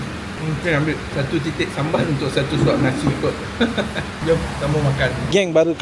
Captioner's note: laugh